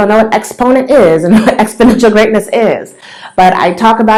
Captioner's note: laughs